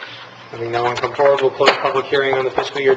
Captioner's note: gavel striking